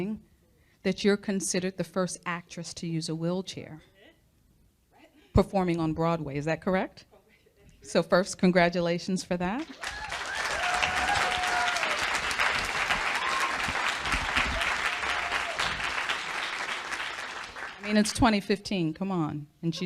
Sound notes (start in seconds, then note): 13.4 audience cheering